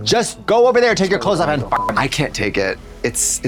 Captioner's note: beep